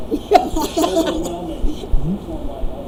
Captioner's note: laughing